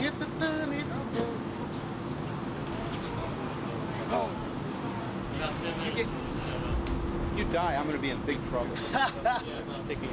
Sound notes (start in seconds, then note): 0.1 Shawn humming; 4.2 Shawn gasps; 8.7 Shawn chuckles